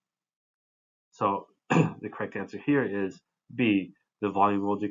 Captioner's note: cough